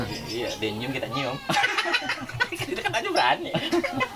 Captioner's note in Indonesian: ketawa monyet